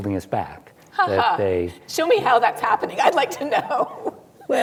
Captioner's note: laughs